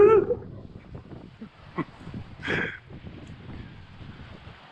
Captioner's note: laughing